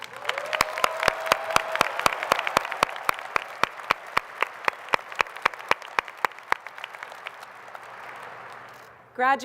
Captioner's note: applause